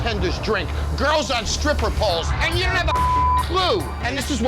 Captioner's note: beep